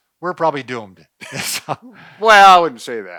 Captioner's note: both laugh